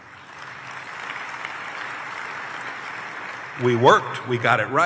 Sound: applause

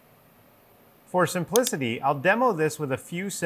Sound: mouse clicking

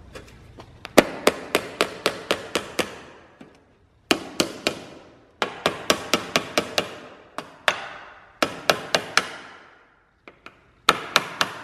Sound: hammer sounds

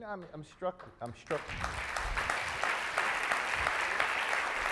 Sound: audience applauds

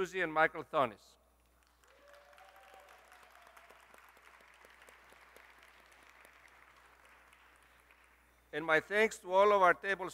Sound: applause

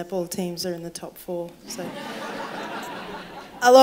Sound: laughter

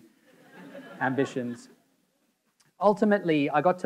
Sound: audience laughing

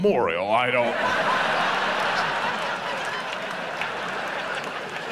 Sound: audience laughs

